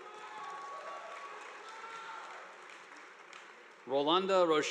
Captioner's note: audience applauding